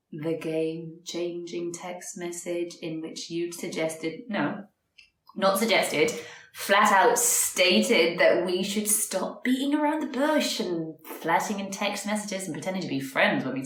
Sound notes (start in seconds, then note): none